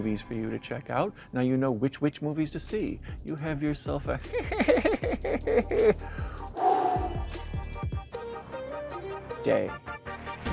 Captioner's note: witch laugh